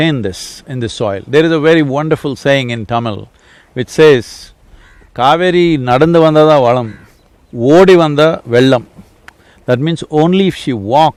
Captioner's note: speaks in Tamil – not transcribed